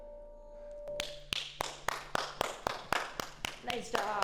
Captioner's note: clapping